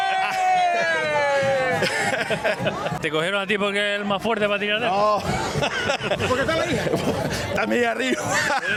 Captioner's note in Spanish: risas